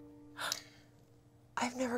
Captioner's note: gasps